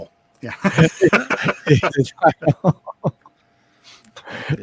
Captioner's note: laughing